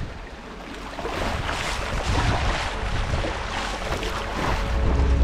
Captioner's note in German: Wasserspritzer